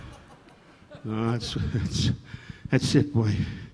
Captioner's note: audience laughing